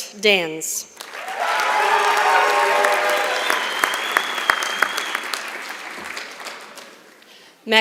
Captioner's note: applause